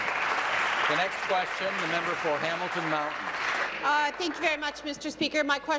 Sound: applause

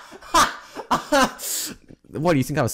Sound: laughs ferociously

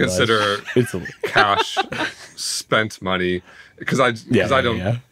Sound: laughing

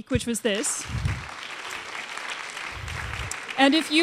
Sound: applause

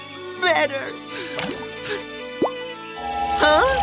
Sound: tear plops down

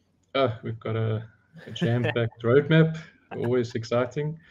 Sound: laughs

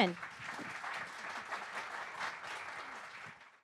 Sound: audience applauding

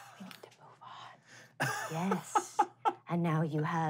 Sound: laughing

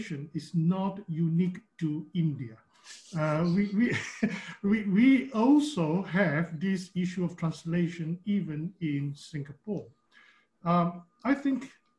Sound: brief laughter

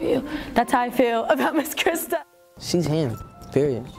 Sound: laughs

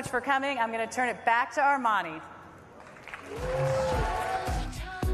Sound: cheers and applause

